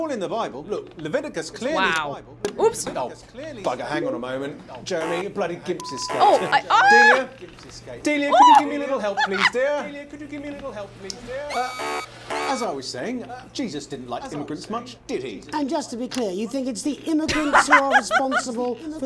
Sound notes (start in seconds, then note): 6.5 gasps and laughs; 17.3 laughs